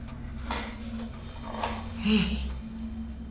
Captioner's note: sighs